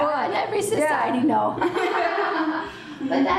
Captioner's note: laughs